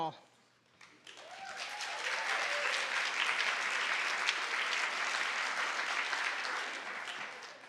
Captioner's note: applause